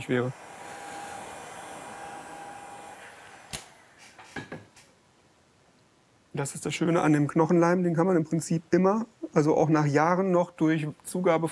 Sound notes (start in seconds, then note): 0.0 hissing